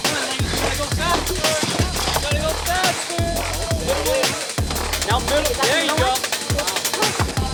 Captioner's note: crowd cheering; energetic music